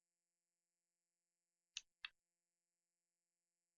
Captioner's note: clicking